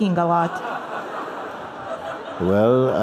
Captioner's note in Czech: Smích